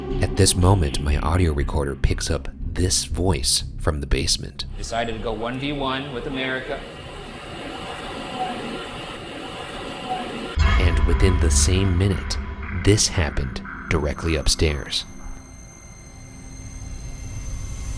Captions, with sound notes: At this moment, my audio recorder picks up this voice from the basement. Decided to go one v one with America. (muffled ghostly speaking) And within the same minute this happened directly upstairs. (eerie music)